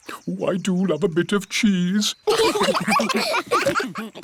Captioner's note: laughter